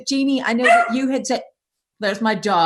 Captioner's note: barking